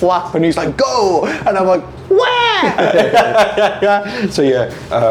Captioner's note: laughing